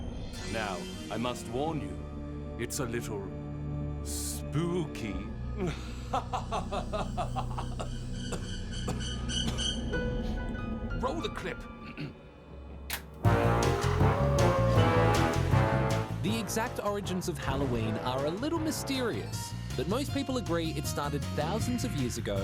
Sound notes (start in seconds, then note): 5.6 laughs creepily; 8.2 coughs; 11.8 clears throat